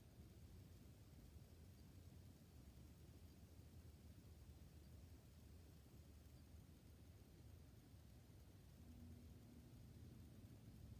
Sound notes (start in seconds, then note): none